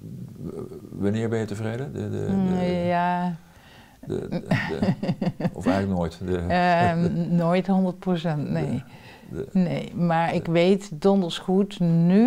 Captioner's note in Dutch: lacht